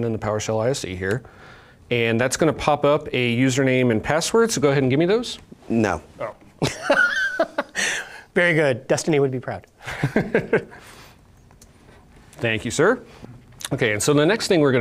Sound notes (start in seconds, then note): 6.6 laughs; 9.8 laughs